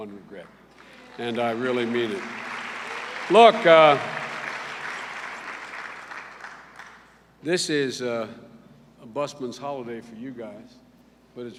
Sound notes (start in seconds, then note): 2.7 applause